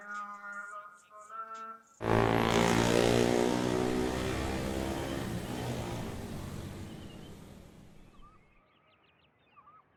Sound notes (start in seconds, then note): 2.0 motorcycle buzzes; 7.4 birds chirp